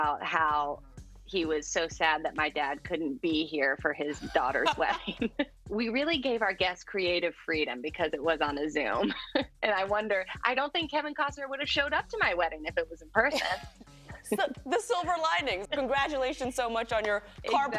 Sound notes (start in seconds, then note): 4.1 laughs; 9.0 chuckles